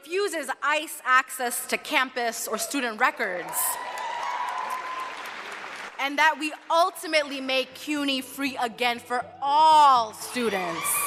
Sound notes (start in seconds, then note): 5.4 cheers and applause